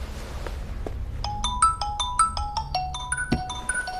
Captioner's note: incoming Call